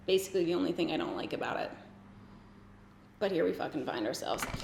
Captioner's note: none